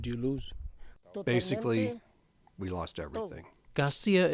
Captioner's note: through translator